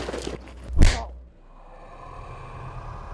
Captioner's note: fist whacking; dog growling